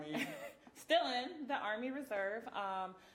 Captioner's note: chuckling